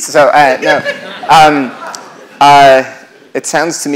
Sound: laughter

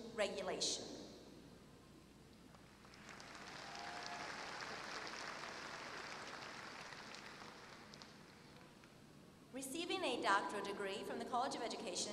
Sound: applause

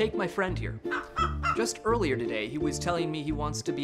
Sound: chicken clucks

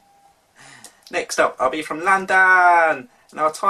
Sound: in London accent

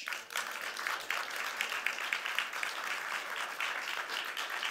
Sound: audience clapping

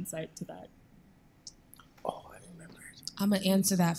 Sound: whispering

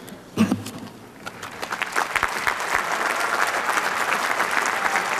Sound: applause

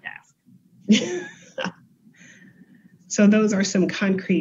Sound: laughs

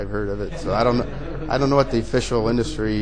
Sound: audience laughing

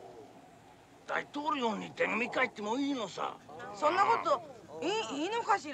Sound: speaking Japanese

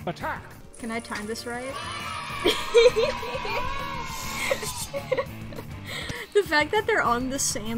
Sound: sound effect of children cheering, giggles

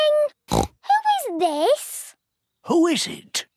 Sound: snorts

